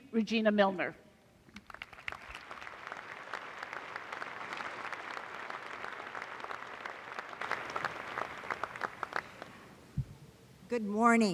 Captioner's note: applause